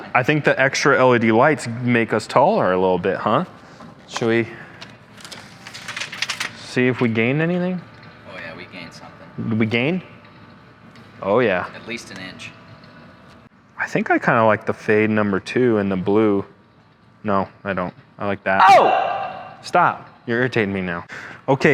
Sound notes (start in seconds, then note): 18.6 screams